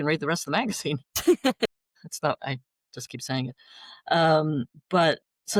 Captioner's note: laughter